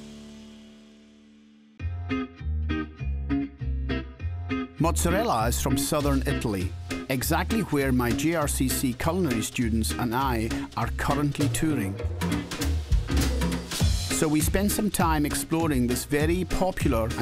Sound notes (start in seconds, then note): 1.8 playful guitar music; 4.3 Scottish accent